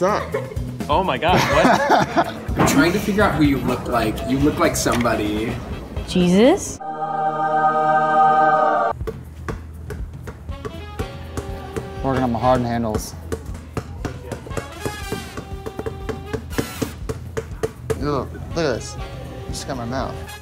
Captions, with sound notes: - What's up? - Oh, my God, what? (laughing) - We're trying to figure out who you look like. You look like somebody. (heavenly music) (jazz music) - Workin' on my Harden handles. (ball bouncing) Ew, look at this, this got in my mouth.